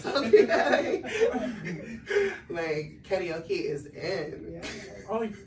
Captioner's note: laughs